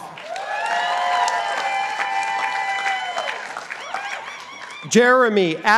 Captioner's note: participants applauding